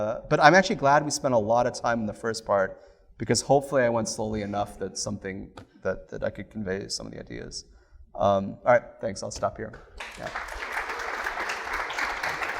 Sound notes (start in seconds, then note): 9.9 applause